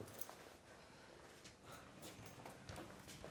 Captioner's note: exhaling